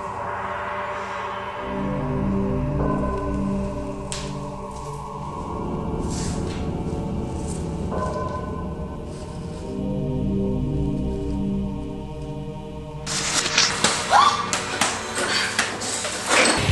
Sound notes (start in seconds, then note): 4.3 shuffling; 13.7 whip, scream